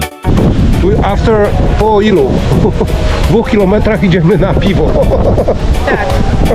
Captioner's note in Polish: śmiech